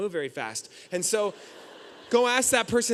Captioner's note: audience laughing